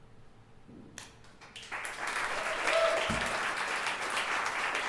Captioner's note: audience clapping